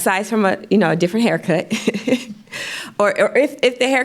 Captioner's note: laughs